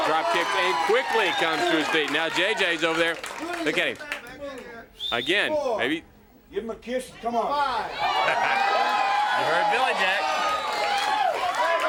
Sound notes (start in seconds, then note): 7.8 crowd chatter; 7.8 crowd cheering